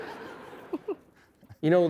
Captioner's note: laughter